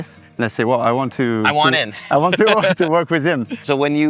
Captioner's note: laughs